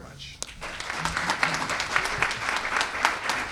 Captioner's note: applause